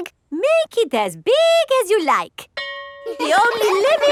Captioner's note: school bell rings; children laughing